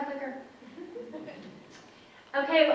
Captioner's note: audience members chuckle